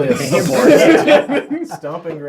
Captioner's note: all laugh